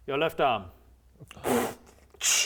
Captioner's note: pffff